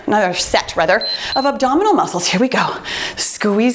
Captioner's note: timer beeps